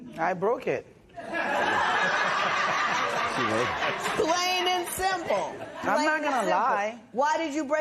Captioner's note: laughter